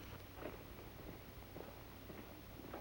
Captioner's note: none